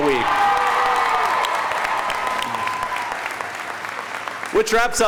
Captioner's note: audience cheering